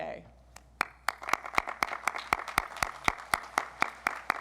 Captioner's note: audience applauds